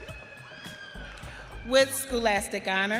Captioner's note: audience cheering